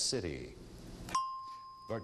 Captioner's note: ding